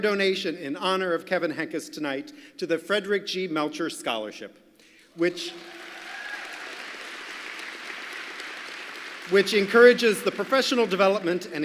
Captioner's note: applause